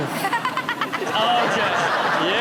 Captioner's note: Chanel laughing; audience laughing